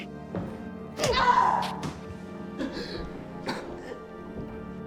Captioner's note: Miss. Fang screaming